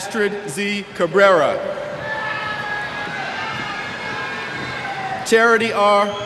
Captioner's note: cheers